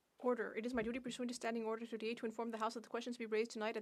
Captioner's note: off mic